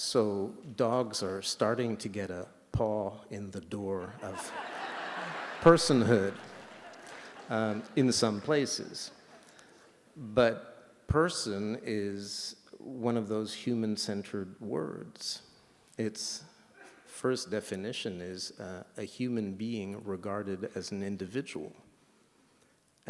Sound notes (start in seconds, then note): 4.0 laughter